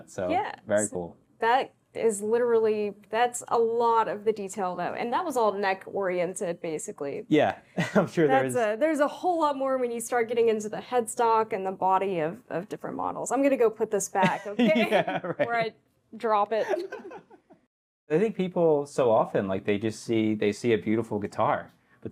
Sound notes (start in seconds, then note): 7.8 chuckles; 14.3 laughs